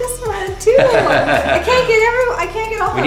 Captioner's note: all laughing